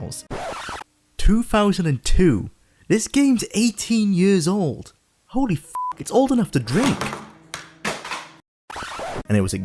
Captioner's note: drink slams into box